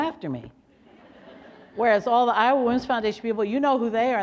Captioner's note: laughter